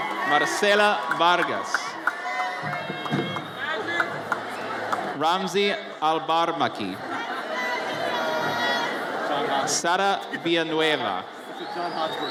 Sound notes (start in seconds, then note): 0.0 audience cheers; 3.2 audience chattering